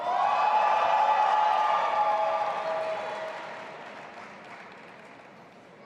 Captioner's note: audience applauding and cheering